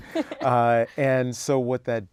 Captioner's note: laugh